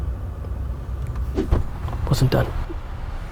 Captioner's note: camera whooshes